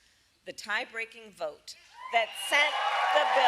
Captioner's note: applause